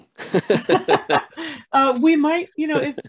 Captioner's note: laugh